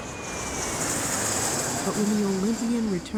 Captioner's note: engine roaring